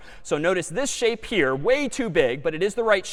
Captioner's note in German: none